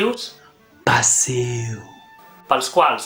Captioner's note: whispering